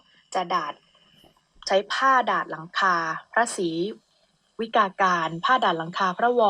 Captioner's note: radio sound